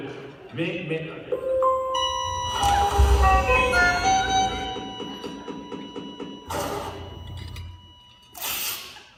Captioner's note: hospital sounds